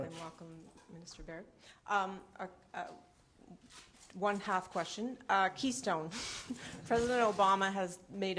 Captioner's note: laughter